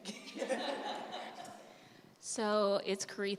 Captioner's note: laughter